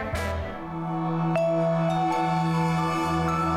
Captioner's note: soft chimes